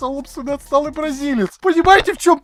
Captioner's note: accidentally claps his mic